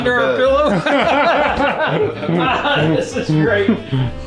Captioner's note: dad laughing